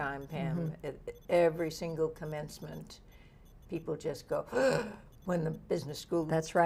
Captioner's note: gasps